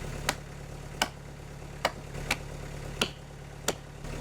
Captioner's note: hammer banging